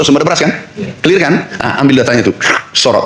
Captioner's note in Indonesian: berdehem